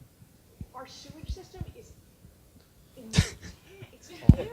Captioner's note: laughing